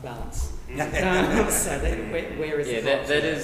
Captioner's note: group laughs